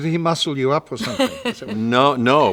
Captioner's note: Laura laughs